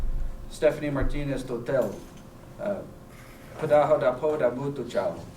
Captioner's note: non-english